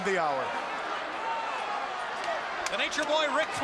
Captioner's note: crowd cheering